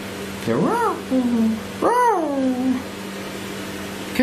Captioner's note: roars